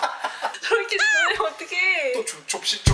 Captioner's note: frustrated